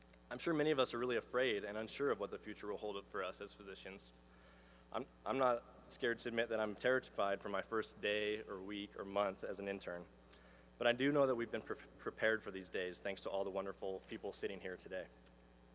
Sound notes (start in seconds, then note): none